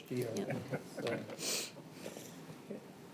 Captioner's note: laughter